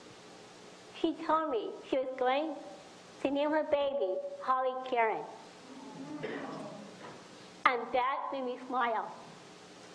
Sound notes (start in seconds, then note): 5.6 audience murmurs